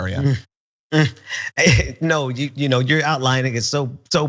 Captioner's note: laugh